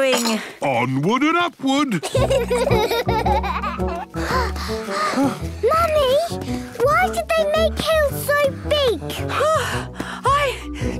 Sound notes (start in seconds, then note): 2.0 children giggling; 3.9 panting; 9.3 panting